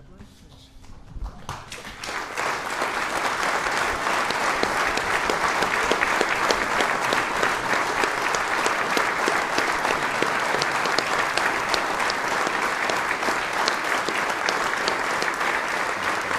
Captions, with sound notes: - Chaplain? - Yes. (audience applauds)